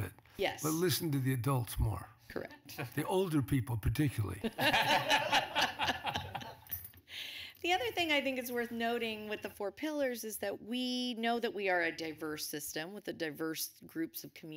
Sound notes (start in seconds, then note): 6.3 laughter